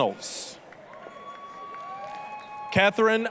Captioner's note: applause, cheering